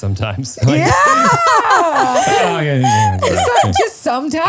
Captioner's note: laugh